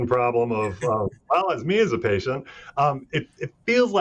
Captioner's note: laughing